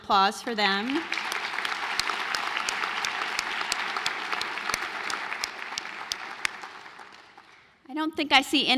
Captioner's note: applause